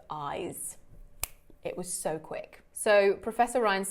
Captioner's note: fingers snapping